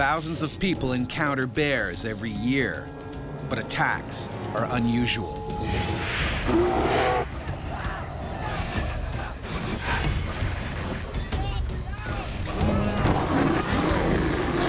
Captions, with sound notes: Thousands of people encounter bears every year. But attacks are unusual. (bear growling) (yelling)